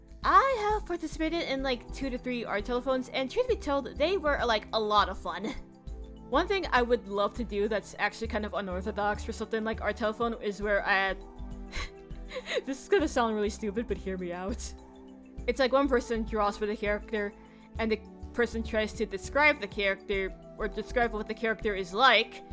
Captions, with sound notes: I have participated like 2 to 3 art telapones and truth be told: They were like, a lot of fun!! One thing I would love to to do that is actually kinda unorthodox for something like- Art Telephone where I- [laughs a bit] This is gonna sound really stupid but hear me out. It's like one person draws for the character And the- -person tries to decribe the character Or describe what the character is like.